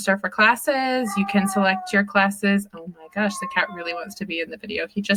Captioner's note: more meowing